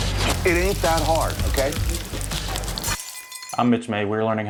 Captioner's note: oil sizzles